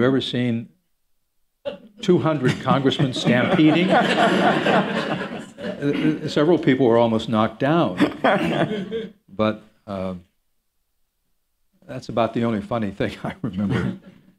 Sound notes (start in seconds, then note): 4.5 laughter